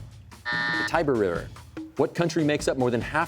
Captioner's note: buzzer sounds